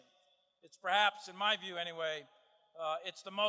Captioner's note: none